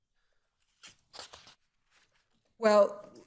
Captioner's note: paper rubs